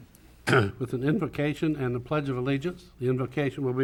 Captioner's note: clears throat